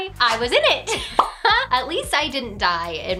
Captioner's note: she laughs